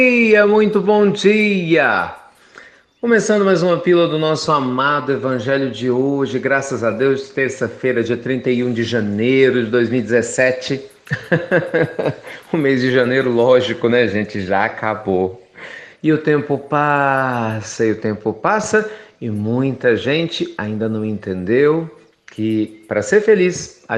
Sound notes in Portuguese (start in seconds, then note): 11.0 Risos